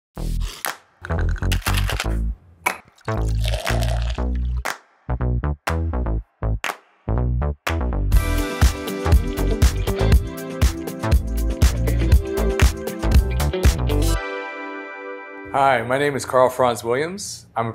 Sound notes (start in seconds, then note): 2.7 liquid splashing; 2.9 ice clattering; 6.4 upbeat funky music